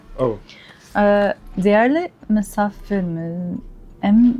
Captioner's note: reading Turkish